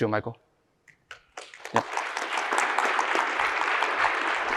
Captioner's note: applause